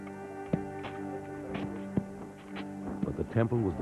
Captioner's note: low Chattering